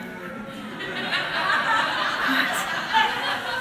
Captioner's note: laughter